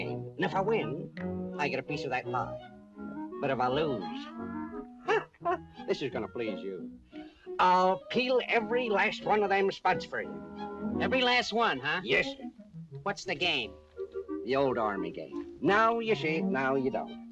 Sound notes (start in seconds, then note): 4.7 giggles